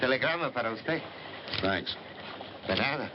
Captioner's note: tomaso speaking spanish